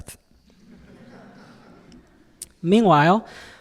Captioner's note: audience laughing